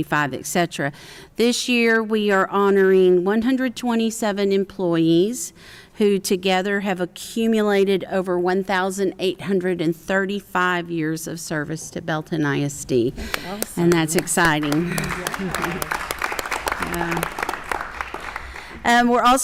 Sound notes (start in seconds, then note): 13.3 applause